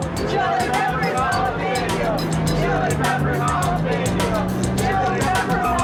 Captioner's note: crowd